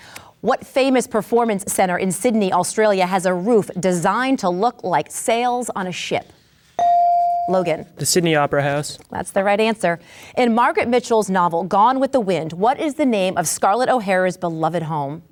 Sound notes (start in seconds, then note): 6.8 bell dings